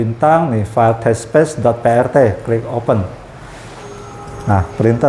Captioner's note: clicking sound; printer machine noise